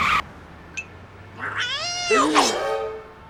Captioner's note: meows